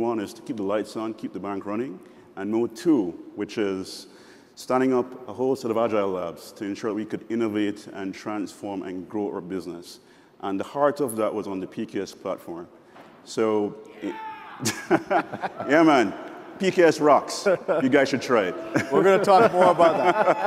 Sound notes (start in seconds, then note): 14.0 laughs; 19.9 laughs